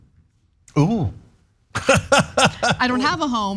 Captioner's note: laugh